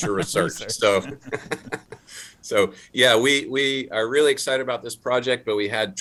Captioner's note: laughs